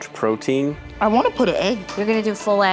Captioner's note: egg cracking